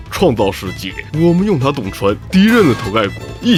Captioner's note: puncture